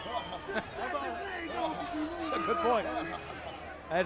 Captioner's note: crowd chatter